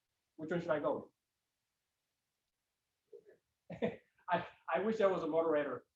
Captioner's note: laughs